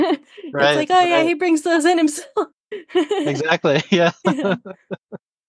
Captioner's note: laughs; laughs